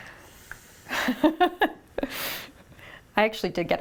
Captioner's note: laughs